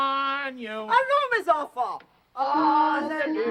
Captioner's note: speaking foreign language